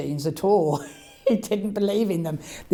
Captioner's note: laughs